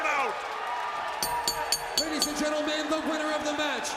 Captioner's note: bell ringing